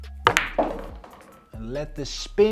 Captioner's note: upbeat music continues; ball bangs